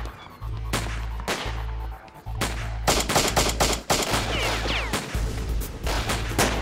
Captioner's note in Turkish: si̇lah sesleri̇